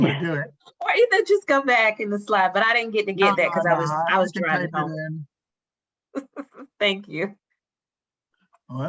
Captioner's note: laughs